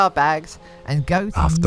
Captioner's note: Ding Dong's voice gets more and more muffled